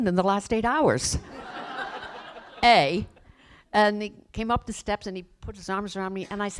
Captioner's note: laughter